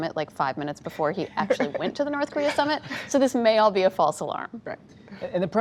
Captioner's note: laughter